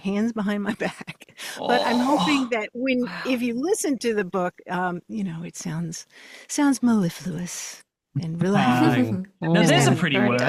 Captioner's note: chuckles